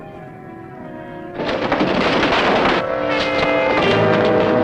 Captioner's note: crates thudding; dramatic music